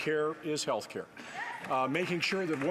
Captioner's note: some Applause